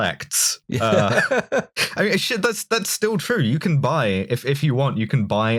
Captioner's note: laughter